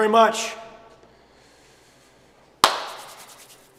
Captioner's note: claps hands